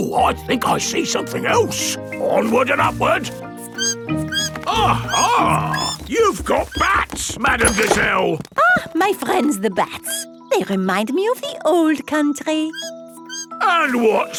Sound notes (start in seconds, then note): 3.5 bat squeaking